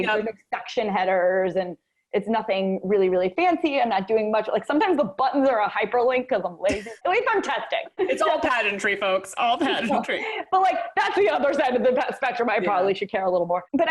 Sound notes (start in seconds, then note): 9.3 chuckles